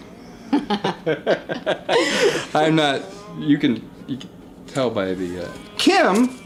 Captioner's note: laughing